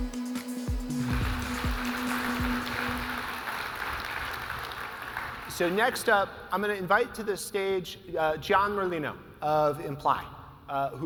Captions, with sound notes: (audience applauding) - So next up, I'm gonna invite to this stage, Gian Merlino of Imply,